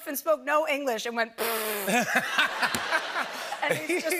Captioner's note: laughter